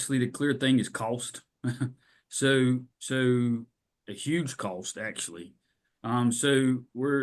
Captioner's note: laughs